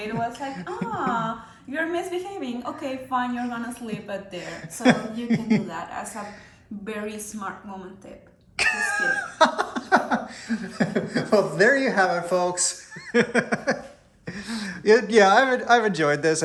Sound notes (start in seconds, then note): 8.6 laughing; 12.7 laughs